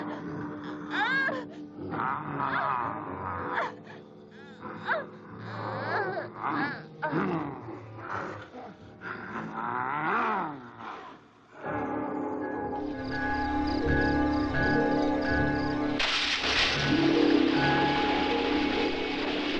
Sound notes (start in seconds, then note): 11.7 dramatic music; 15.9 water splashing